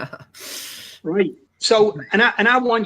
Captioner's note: chuckles